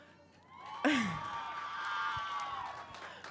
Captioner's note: cheering